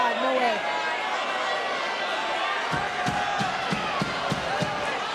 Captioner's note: applause